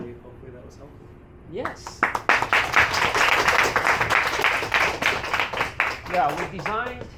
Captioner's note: applause